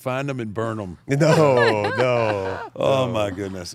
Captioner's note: chuckles